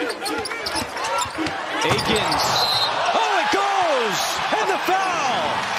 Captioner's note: whistle